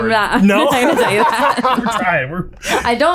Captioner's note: laughing